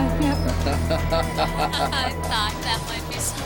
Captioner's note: laughing